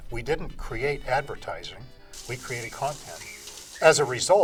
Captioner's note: shouts